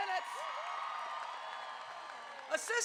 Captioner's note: crowd cheering